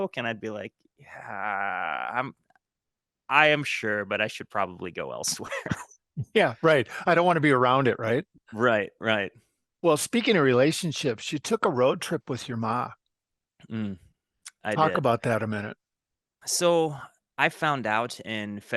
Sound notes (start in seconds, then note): 5.4 chuckle